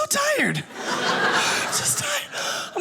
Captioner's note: audience laughing